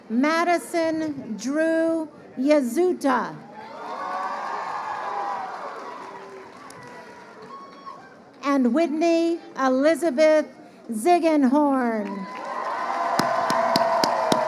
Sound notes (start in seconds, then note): 12.0 crowd cheering